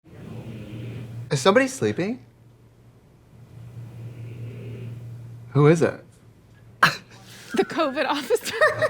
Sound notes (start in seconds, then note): 3.3 man snoring loudly